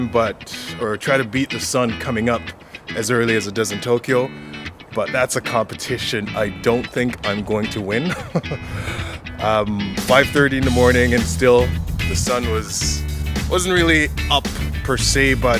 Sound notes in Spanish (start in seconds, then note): 8.0 risas